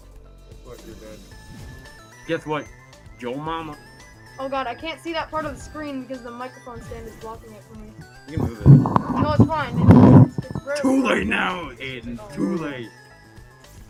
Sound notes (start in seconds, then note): 8.3 microphone moving sounds